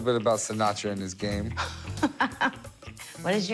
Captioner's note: laughs